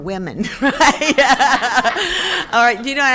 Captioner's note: crowd laughing